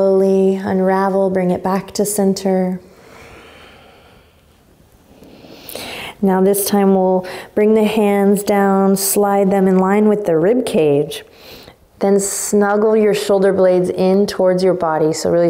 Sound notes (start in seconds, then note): 2.8 exhaling strongly; 5.1 inhaling deeply